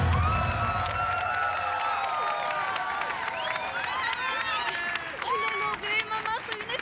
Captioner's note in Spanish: Arengas del público